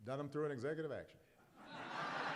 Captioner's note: laughter and applause